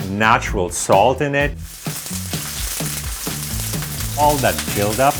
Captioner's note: meat sizzling